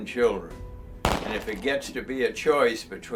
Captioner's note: gunshot